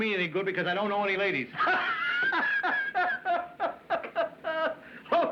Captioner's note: laughing